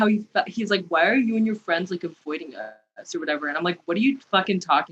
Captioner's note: fratty voice